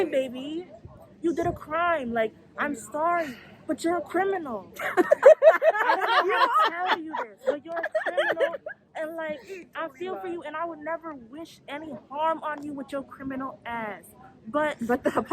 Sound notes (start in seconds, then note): 4.7 laughter